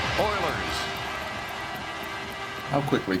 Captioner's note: clock ticking